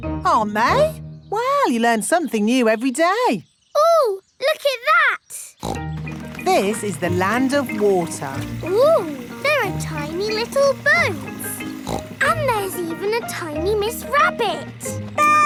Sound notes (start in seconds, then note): 5.6 snorts; 11.8 snorts